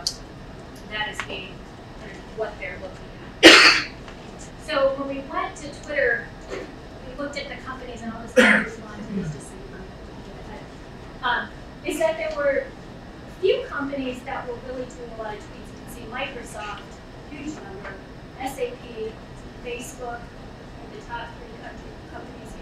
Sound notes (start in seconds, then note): 8.3 coughing drowns out speech